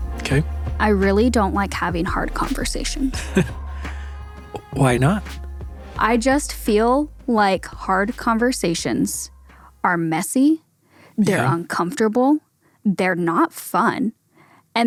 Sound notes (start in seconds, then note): 3.1 laughs